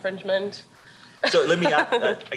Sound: chuckles

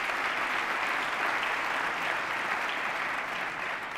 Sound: applause

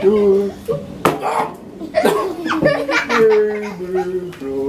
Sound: shouts; laughing

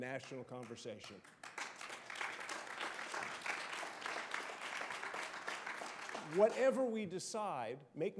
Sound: applause

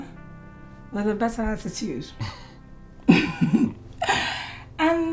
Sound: giggles

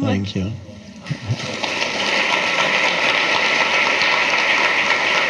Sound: audience clapping

